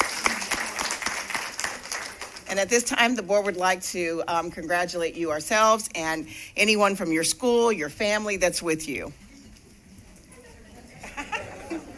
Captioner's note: applause